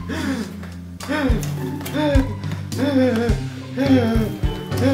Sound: Oli struggling for breath

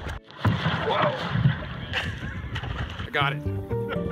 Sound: water splashing; laughing

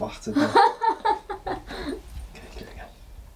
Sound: woman laughs

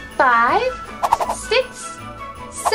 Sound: fast comical whooshes

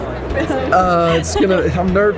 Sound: laughter

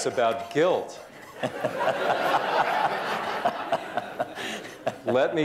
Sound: laughter

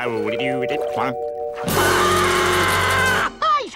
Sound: screams

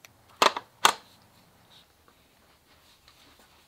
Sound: gun clicks

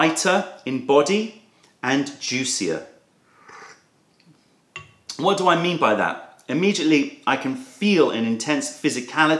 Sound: sips tea

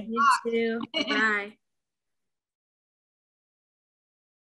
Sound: laughing

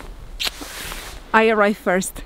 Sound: kisses

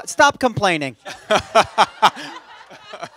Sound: laughter

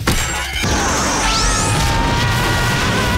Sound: screaming

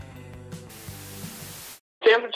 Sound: static noise

